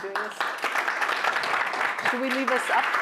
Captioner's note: applause